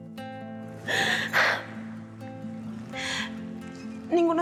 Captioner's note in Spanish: sollozos